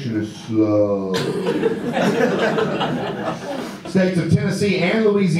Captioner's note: audience laughter